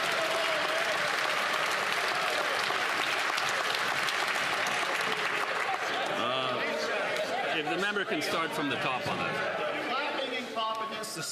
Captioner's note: applause